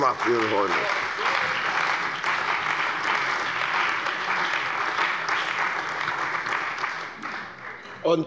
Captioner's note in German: Beifall bei der CDU und dem BÜNDNIS 90/DIE GRÜNEN